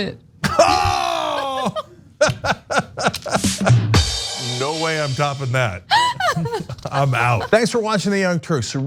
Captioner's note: laugh